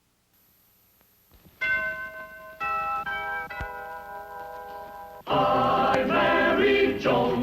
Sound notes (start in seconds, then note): 1.6 bells chiming; 3.4 orchestral music begins